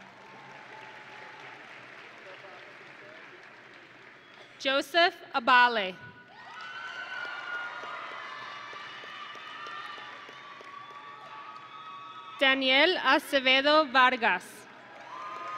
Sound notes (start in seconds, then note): 0.0 audience and graduates applauding; 6.3 audience and graduates cheering